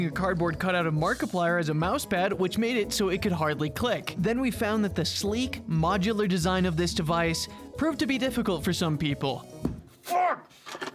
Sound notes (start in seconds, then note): 9.6 thump